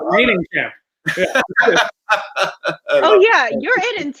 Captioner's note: laughter